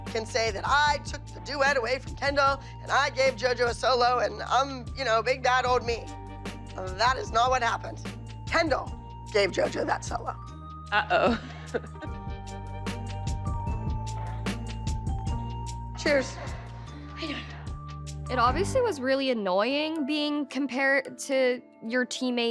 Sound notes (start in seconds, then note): 11.0 giggles; 16.0 breathlessly